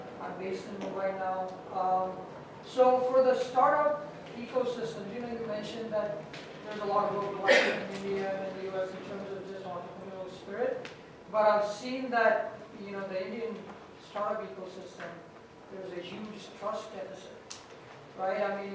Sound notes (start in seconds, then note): 7.4 audience member coughs